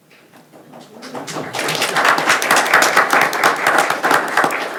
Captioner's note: attendees applauding